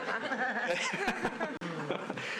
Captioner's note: laughter